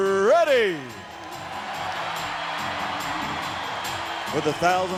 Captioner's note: audience cheering